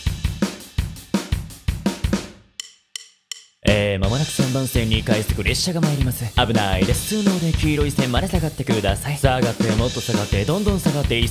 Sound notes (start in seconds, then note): 2.4 deep voice